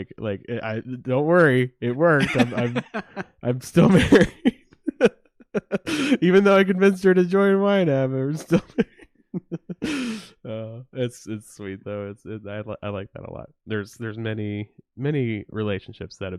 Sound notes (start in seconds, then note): 1.9 laughs; 5.3 laughs